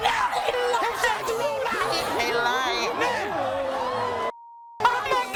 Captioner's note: yelling and screaming